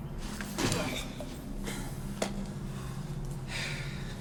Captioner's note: grunts